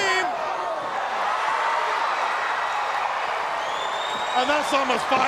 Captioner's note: crowd cheering